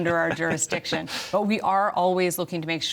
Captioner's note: laughter